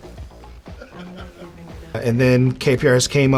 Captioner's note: interviewer chuckles